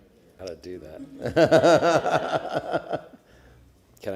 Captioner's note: laughter